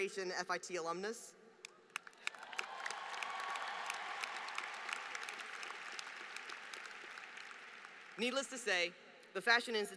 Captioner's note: applause